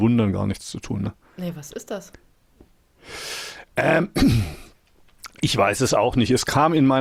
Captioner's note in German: räuspern